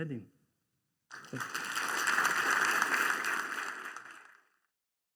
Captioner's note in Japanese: 拍手